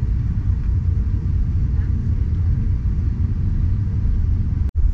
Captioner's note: plane engine whirring